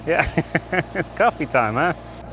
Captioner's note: laughing